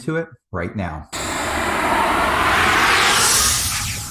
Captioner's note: swooshing